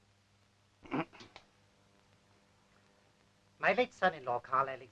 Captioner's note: clearing throat